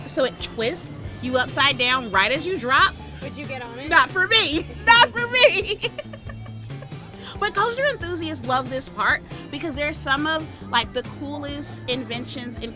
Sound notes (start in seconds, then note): 4.4 laughs